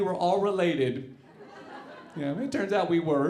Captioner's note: audience laughing